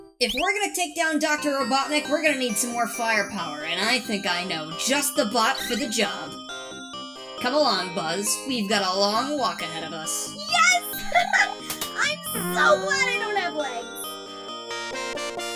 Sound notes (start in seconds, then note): 12.3 laughs; 14.7 credits music